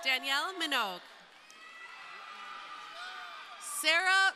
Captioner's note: crowd cheering